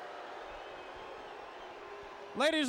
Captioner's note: crowd cheering